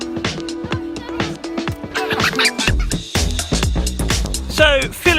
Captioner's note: kids laughing